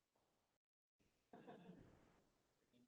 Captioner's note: laughter